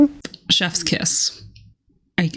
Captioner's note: mwah